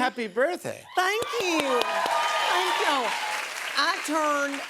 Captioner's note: cheers and applause